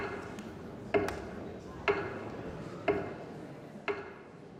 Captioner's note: clock ticking loudly; people murmuring